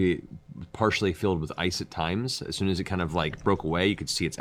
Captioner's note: none